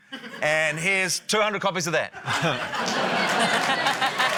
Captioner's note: laughter